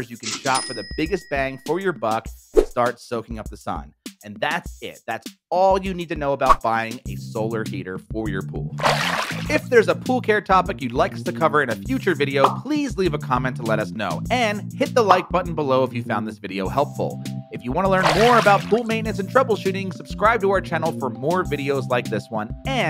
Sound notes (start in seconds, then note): 8.8 water splashing